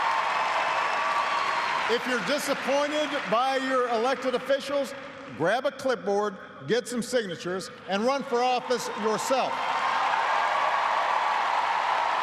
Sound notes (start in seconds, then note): 4.5 cheers and applause